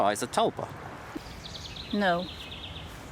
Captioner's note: birds chirping